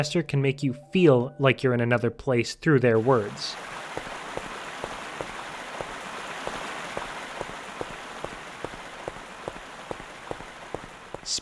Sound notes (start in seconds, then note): 3.0 sound of footsteps and running water